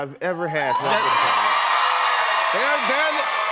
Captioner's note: cheers and applause